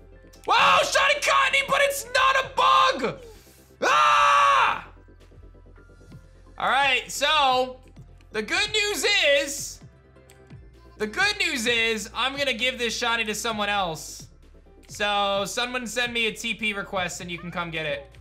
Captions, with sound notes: Whoa, Shiny Cottonee but it's not a Bug! (shouts) All right. So, the good news is... The good news is, I'm going to give this Shiny to someone else. So, someone sent me a tp request and you can come get it.